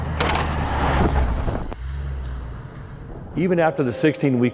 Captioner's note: simulator slams open